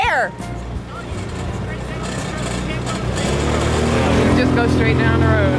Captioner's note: motor drowning out